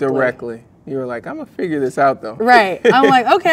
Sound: laughs

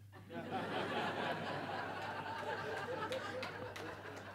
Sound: audience laughs

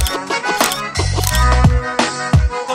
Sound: camera Clicks

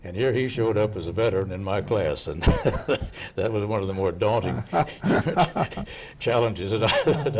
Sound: laughing

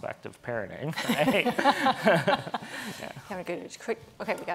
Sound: audience laughing

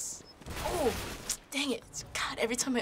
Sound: tsks

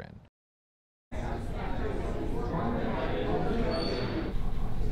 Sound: people chattering

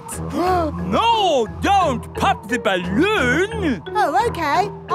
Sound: gasps

